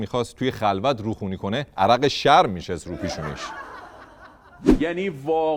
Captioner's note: laughter